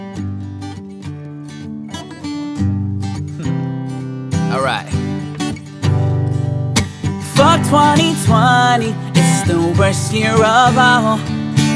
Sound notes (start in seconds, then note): 3.4 giggles